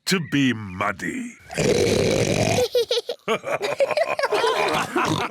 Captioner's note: oinks loudly; both laugh